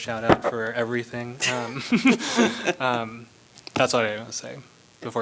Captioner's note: laughter